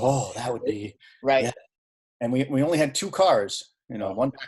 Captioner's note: none